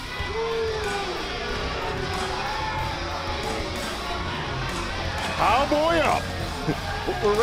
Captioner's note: crowd cheering